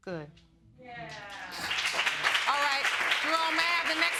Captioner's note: cheering